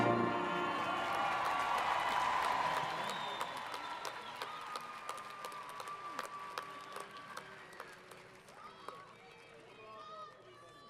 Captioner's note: applause & Crowd Cheering